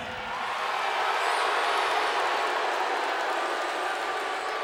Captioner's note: crowd boos